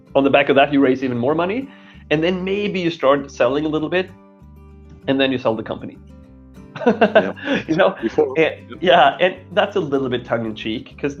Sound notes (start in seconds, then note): 6.8 laughing